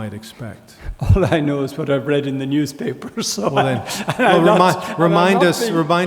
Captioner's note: laughs